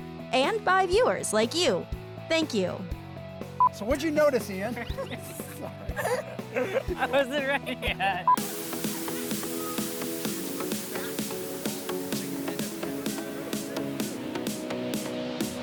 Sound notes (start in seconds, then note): 4.7 everyone laughs; 8.3 upbeat music